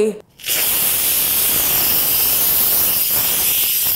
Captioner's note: air hissing